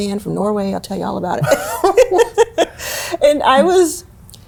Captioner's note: laughs